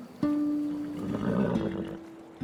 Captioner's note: horse nickering